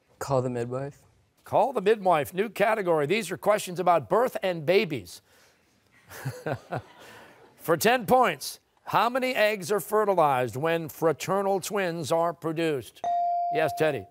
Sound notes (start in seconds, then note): 6.0 laughs